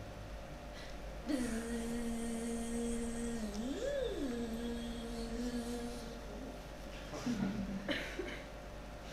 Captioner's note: makes a buzzing sound